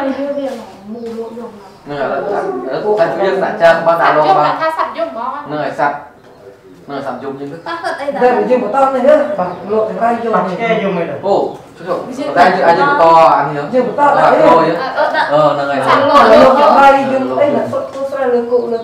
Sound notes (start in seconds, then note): 13.7 chattering